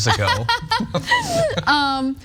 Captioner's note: laugh